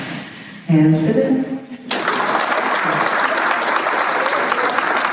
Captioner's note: applause